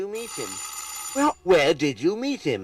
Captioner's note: doorbell rings